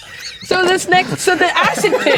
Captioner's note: players laughing